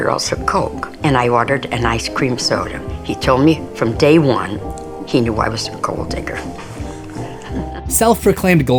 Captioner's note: laughs